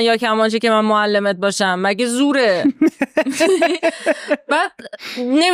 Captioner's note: laughs